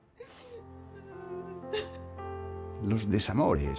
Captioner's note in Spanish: lloriqueando